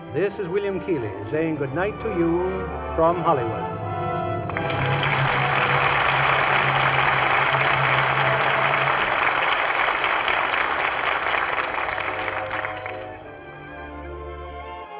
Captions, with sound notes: This is William Keeley saying good night to you from Hollywood. (audience applauds) (gentle music)